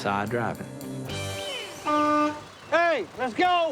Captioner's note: horn blares